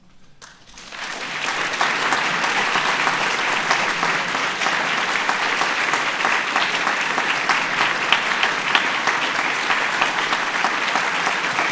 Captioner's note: applause